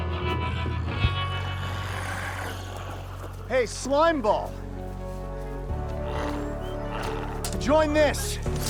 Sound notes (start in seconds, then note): 1.4 glowzies growling